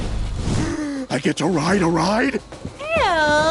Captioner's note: gasps